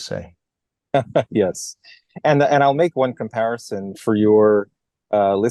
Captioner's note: laugh